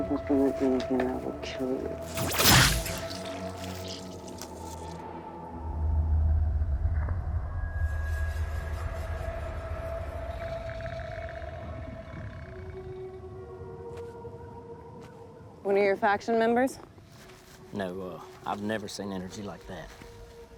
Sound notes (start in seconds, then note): 2.1 laser firing; 7.0 eerie music